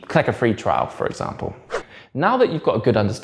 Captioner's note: page whips